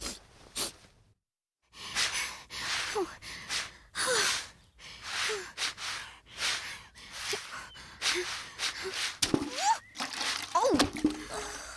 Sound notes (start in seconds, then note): 2.6 brush Scratching; 4.2 sighing; 9.3 splash!